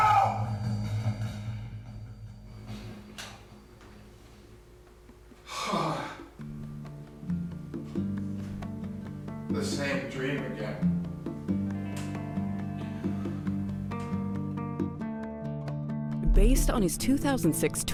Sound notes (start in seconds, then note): 3.7 sighs heavily; 5.4 light instrumental music